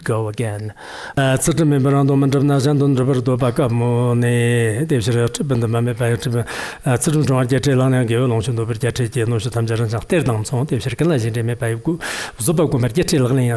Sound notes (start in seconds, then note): 1.2 giving oral transmission in Tibetan